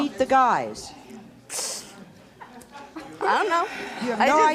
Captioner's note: scoffs